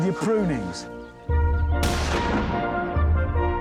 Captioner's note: shotgun blast